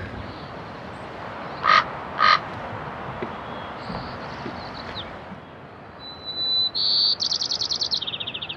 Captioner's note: birds; camp sounds; crow